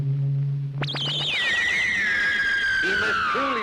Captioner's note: discus screeching loudly